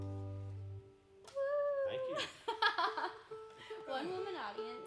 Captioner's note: cheering; laughing